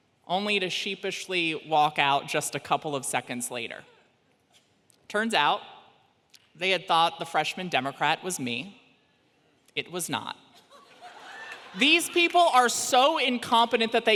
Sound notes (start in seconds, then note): 10.8 audience laughs